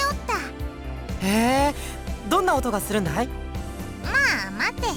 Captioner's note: interested hum